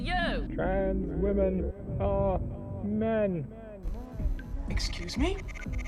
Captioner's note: radio broadcast